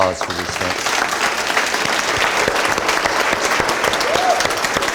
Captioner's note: audience applauding